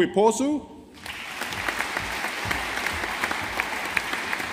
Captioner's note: audience applauding